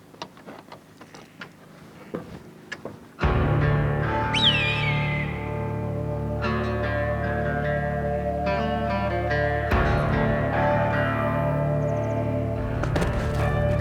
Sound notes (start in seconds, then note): 4.3 bird screeches; 8.4 tense music